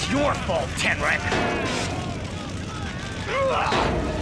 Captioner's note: grunting